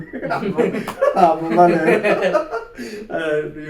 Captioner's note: laughs